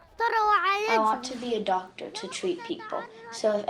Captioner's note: through translator